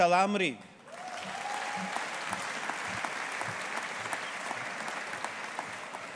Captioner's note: audience applauding